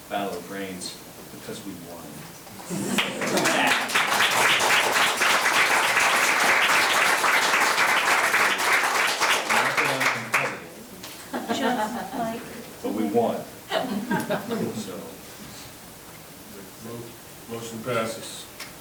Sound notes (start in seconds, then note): 2.7 members applauding